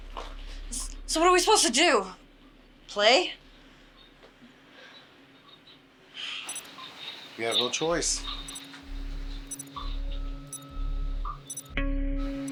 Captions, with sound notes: God, this is all your fault. So what are we supposed to do, play? [beeping] We have no choice.